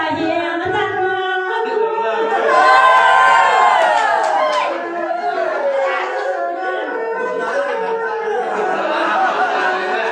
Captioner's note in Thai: ปรบมือ